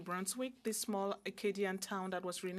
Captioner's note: speaking French